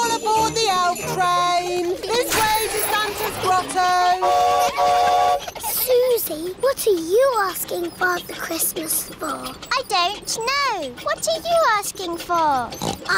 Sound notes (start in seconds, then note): 4.0 horn toots